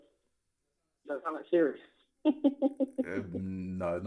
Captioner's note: laughter